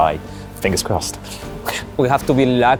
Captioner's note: laughs